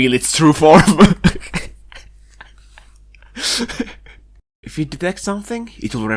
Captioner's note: laughter